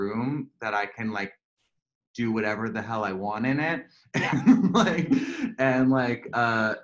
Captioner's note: laughter